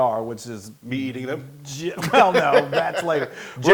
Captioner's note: laugh